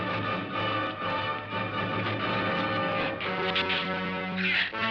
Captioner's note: shrews chattering